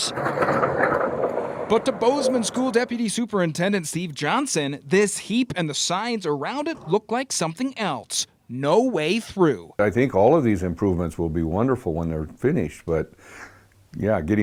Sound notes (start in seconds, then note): 0.1 nat -- *crunch